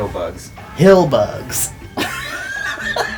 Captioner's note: laughing